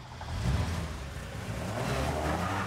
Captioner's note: car engine revving